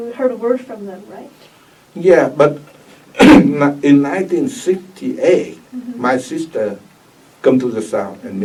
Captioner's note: coughs